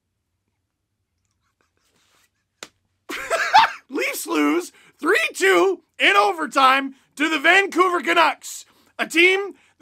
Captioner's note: laughs